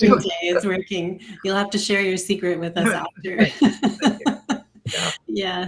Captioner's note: laughs